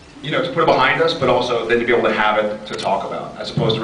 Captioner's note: none